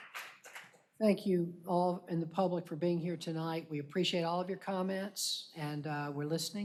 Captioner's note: applause